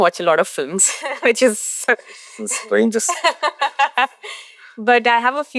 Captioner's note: laughs